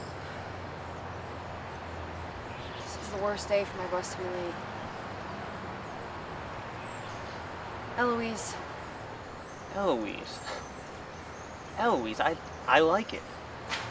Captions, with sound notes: This is the worst day for my bus to be late. Eloise. Eloise. (laugh) Eloise, I- I like it.